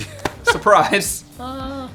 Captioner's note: laughing